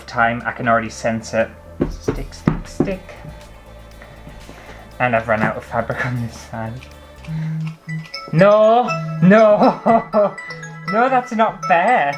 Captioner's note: alarm Sounds